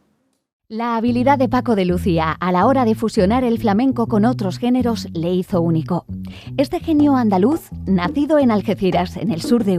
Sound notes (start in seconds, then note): 0.8 speaking in Spanish